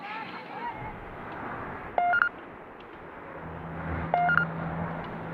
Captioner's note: mechanical beeping